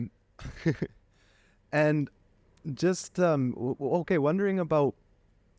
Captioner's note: laughter